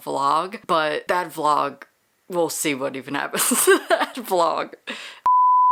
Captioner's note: laughing